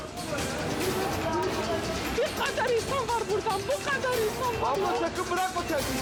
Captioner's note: onlooker speaking in foreign language